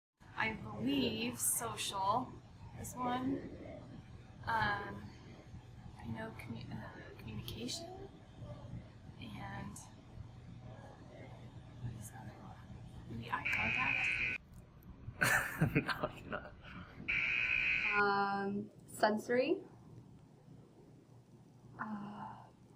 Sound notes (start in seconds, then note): 13.4 buzzer; 15.2 embarrassed laugh; 17.1 buzzer